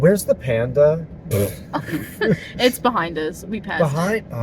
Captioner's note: laughter